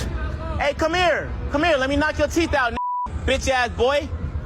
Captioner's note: beep